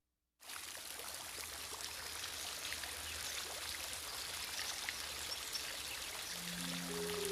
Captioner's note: birds chirping; water gurgling; mysterious music